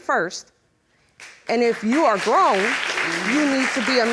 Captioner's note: audience clapping